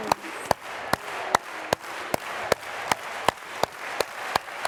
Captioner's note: clapping